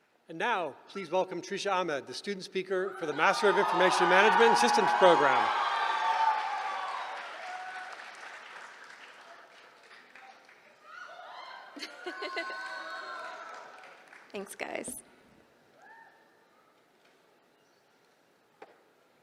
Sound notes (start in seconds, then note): 5.7 cheering